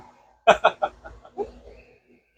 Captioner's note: laughing